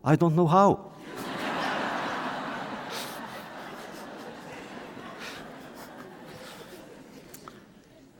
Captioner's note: laughter